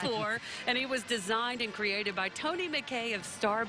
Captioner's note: laughing